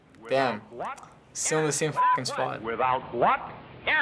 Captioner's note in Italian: bip